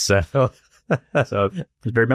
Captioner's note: laughter